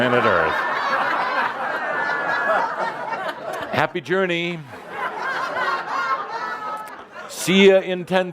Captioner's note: lots of laughter